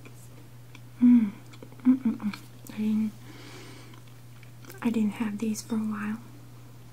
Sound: hmmm

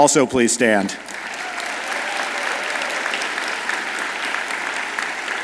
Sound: audience applauds

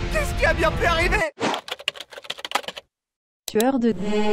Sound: typing

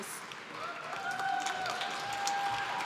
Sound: applause

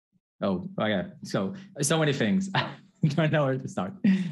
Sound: laughs

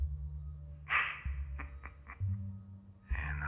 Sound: man on phone giggling

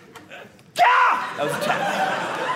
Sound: yelling; audience laughing

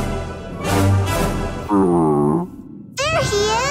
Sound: grunting

